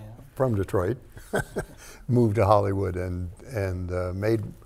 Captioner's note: chuckles